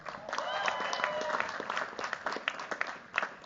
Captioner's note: cheers, applause